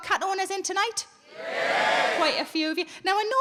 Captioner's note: audience cheering